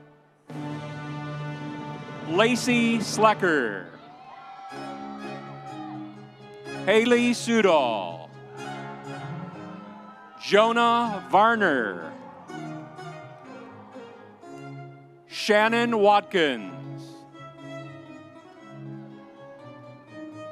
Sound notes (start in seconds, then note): 4.2 audience cheering; 8.6 audience cheering; 12.5 audience cheering; 17.2 audience applauding